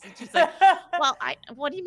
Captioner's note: laughing